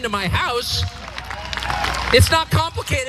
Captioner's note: applause